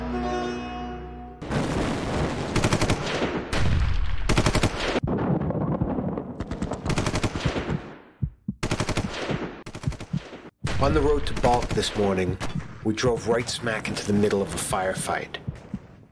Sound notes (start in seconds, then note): 1.5 explosions, gunfire; 5.0 heart beating